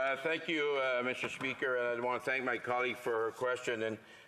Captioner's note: speaking French